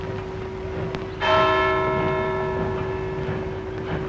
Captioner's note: clock strikes